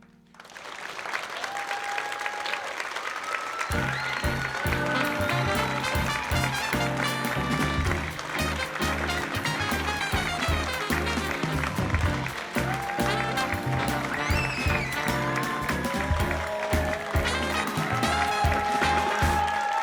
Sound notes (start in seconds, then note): 0.3 audience applauding; 0.3 audience cheering; 3.7 bright music; 7.8 audience applause continues; 7.8 audience cheering continues; 11.6 bright music continues; 15.6 audience applause continues; 15.6 audience cheering continues